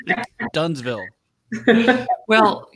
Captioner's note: laughing